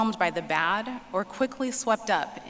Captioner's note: none